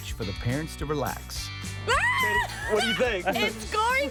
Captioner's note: screaming excitedly